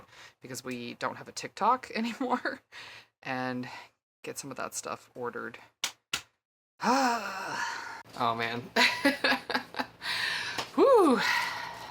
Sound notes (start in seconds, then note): 6.8 sigh